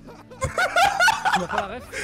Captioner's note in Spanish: ríete